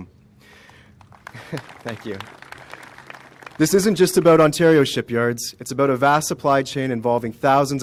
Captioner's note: applause